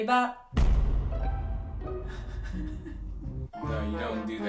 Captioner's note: explosion; comical music